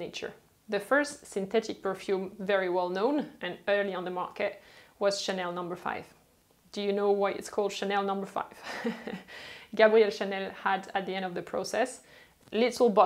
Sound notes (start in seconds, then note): 8.6 chuckles